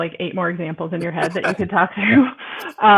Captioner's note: both laughing